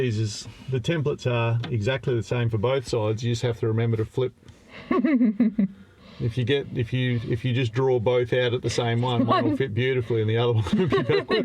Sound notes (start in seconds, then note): 4.8 laughs